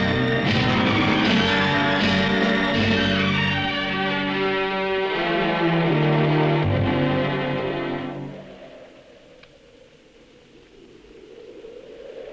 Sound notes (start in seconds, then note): 6.9 dramatic music continues; 7.5 wind whooshing